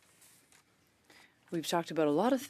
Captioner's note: speaking French